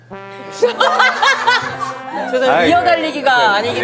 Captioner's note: laughs